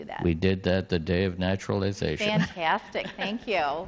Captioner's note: laughs